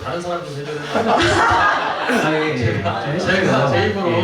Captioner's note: laughs